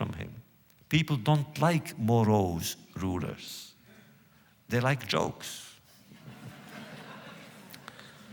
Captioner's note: laughter